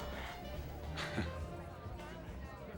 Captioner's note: chuckles